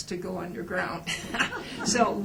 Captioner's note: laughter